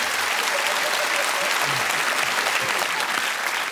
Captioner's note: applause; laughter